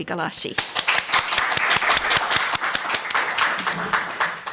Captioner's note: audience applauds